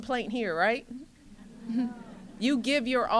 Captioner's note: laughter